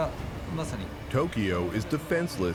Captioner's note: speaking Japanese